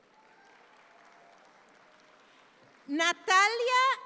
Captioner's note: audience claps